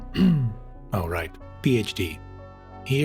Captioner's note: clears Throat